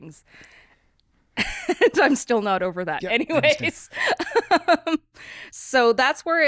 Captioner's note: laughs